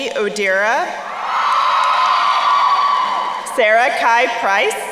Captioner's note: crowd cheering